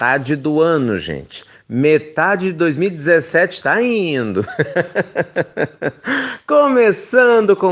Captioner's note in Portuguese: risos